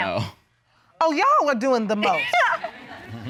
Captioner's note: laughing